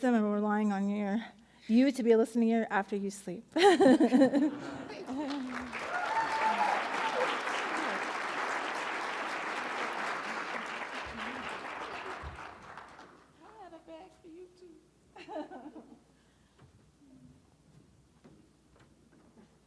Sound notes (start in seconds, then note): 3.6 laughs; 4.9 audience applauding; 5.0 audience cheering; 15.3 laughs